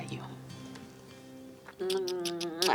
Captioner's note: rapidly kissing dramatically